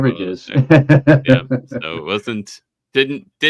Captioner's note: chuckling